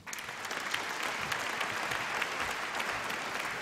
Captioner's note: applause